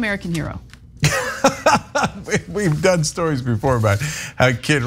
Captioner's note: laugh